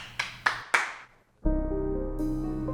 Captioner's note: hands clapping; suspenseful music